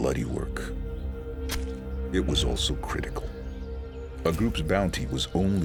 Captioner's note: knife thudding